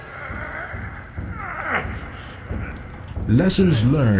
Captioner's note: man groaning in pain on planet Mercury